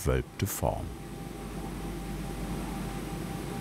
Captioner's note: machine whirring